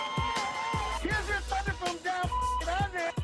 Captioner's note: cheering